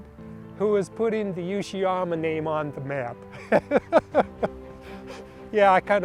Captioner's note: laughing